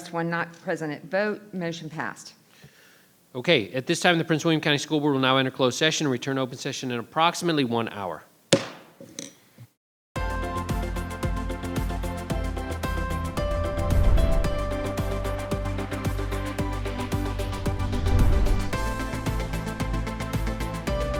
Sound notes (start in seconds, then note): 8.5 gavel pounding; 10.6 upbeat music